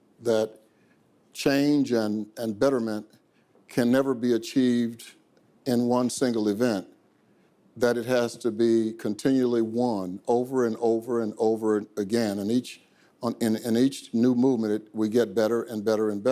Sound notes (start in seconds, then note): none